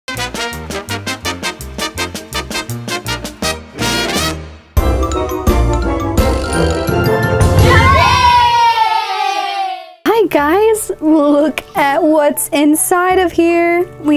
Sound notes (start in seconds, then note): 0.0 upbeat music; 4.8 lively music; 6.6 children cheering